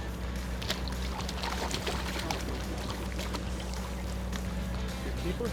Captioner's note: water splashing